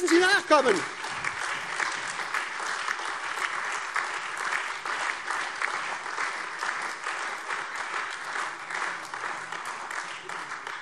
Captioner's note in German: Beifall SPD, AfD, Freie Demokraten und DIE LINKE